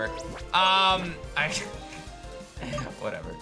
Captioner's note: giggles